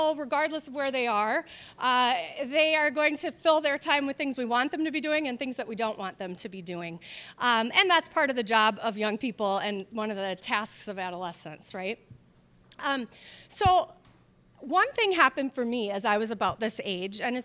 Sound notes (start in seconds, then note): none